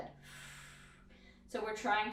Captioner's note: exhales breath